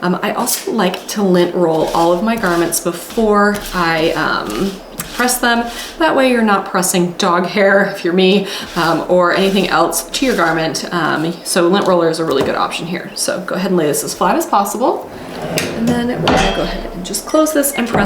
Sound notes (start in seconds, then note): 4.5 roller whooshing; 15.0 drawer whooshing